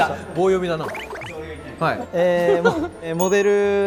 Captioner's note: hahahaha